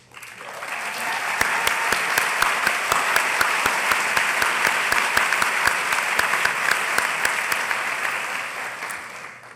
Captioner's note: applause